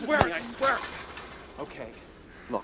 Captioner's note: rattling